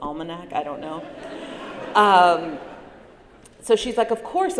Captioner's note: laughter